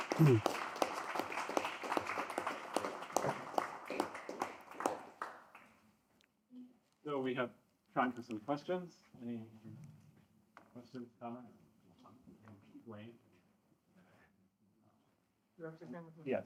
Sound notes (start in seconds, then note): 4.9 applause